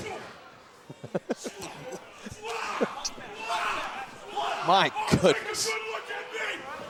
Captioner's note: laughter